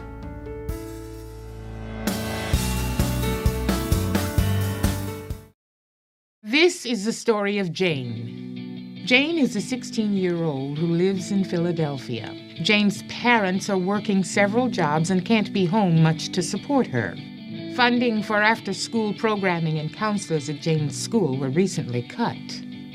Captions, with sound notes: (upbeat inspirational music) - [Voiceover] This is the story of Jane. Jane is a 16 year old who lives in Philadelphia. Jane's parents are working several jobs and can't be home much to support her. Funding for after school programming and couselors at Jane's school were recently cut.